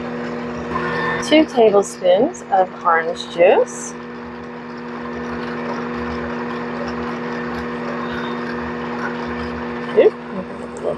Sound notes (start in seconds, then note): 1.2 mixer sound